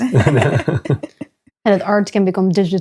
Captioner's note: both laughing